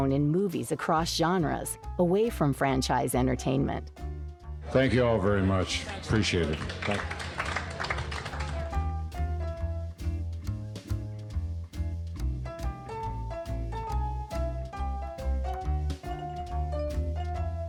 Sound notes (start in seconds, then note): 7.7 audience appluading; 9.3 playful jazz music